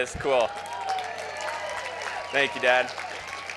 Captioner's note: crowd cheers